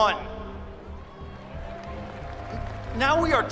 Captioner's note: cheers and applause